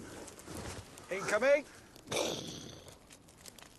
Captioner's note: mimics explosion